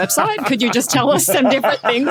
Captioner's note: laugh